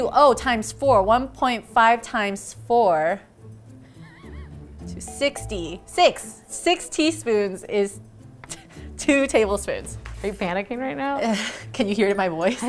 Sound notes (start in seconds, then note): 4.0 laughing